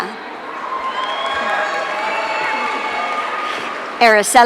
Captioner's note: audience cheering